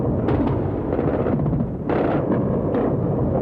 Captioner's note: explosions